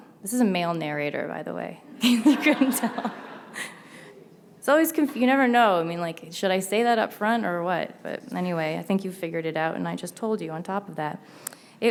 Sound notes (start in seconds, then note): 2.0 audience laughs